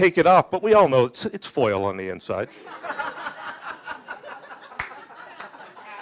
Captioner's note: audience applauding